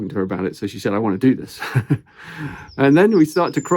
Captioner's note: chuckles